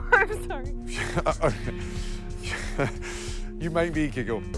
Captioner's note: Ramsay giggles